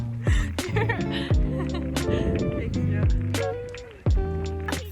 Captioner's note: laughs